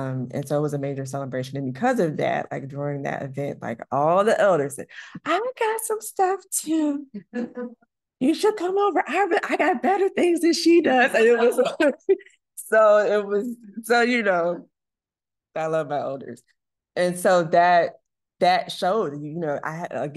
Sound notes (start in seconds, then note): 11.2 laughs